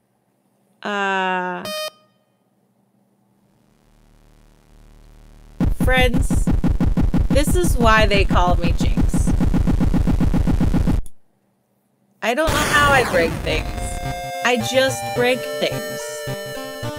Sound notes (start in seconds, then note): 1.6 game beep